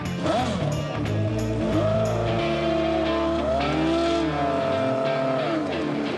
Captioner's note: engine revs